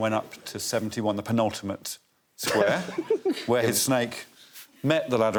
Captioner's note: laughs